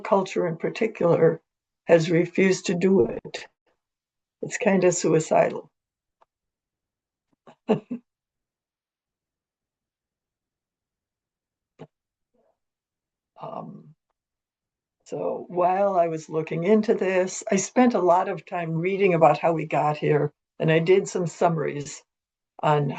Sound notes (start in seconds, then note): 12.6 pause